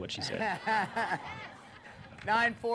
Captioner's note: laughs